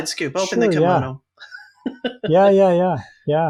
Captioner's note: laughs